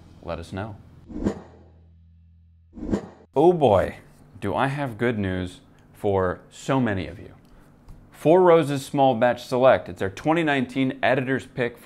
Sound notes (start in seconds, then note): 1.1 air whooshing